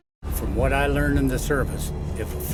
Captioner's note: voiceover